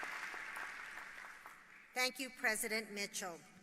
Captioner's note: applause